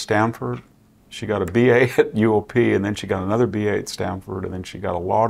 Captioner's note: laugh